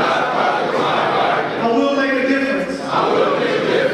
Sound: audience speaking

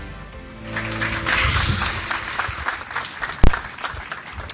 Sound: applauding

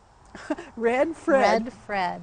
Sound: laughs

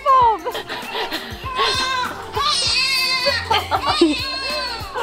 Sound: crying; girls giggling

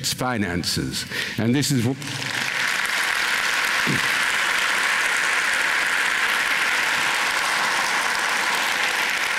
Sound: applause

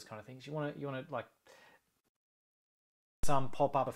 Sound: microphone pops

